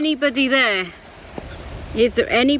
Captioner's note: birds chirping